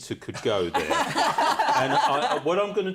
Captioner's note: laughter